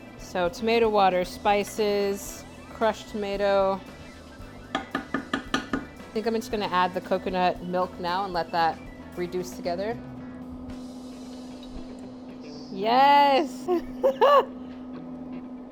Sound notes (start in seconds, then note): 4.7 tapping; 13.6 laughs